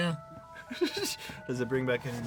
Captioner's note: laughing